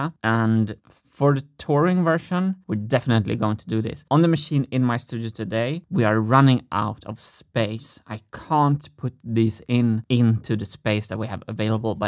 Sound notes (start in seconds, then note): none